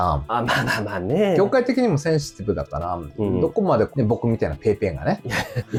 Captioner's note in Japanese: 笑い